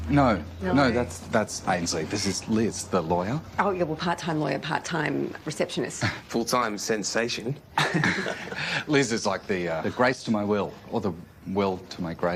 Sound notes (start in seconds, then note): 7.7 laughs; 7.7 harry laughs